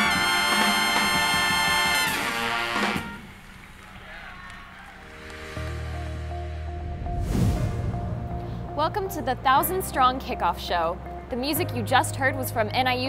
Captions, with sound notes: (audience clapping) (light music) - Welcome to the Thousands Strong kickoff show. The music you just heard was from NIU's